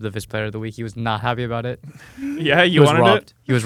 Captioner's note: laughs